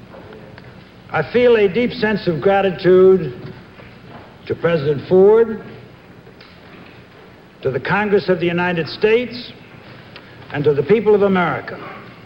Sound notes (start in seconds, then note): none